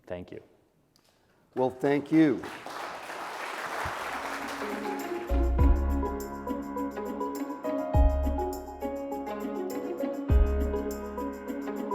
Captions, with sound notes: Thank you. - Well, thank you. (audience clapping) (upbeat piano music)